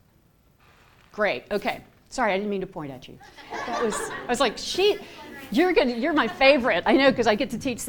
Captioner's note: laughter